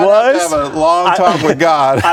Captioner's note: laughter